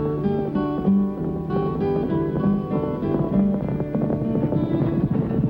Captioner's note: hooves thundering